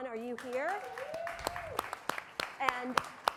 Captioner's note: audience cheering; audience applauding